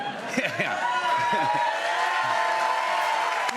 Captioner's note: cheers and applause